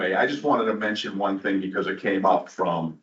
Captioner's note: laughing